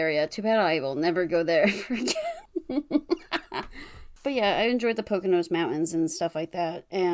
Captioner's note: laughs